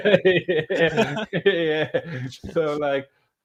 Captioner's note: laughing